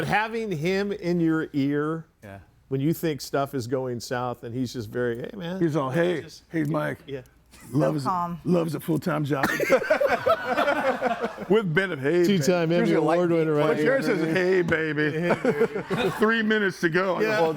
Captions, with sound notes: - But having him in your ear when you think stuff is going south and he's just very, hey, man- - He's all, "Hey." - Just- - "Hey, Mike." - So calm. - Loves a full-time job ... (group laughs) with benefits. - Tee time. Here's your award winner right here. Hey, baby. - Hey, baby. (person laughs) - Three minutes to go.